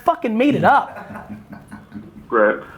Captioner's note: laughing